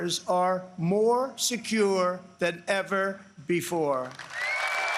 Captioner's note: applause